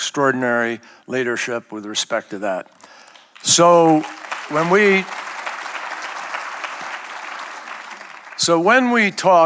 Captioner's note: applause